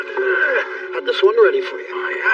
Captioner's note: grgroaoans